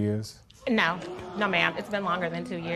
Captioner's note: spectators gasp